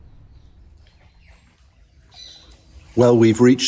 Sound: birds singing

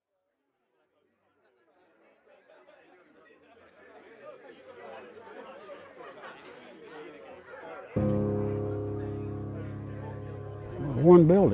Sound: background sounds of crowd chattering

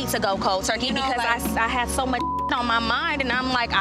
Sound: beep

